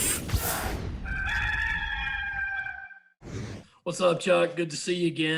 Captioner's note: air whooshing; cock crowing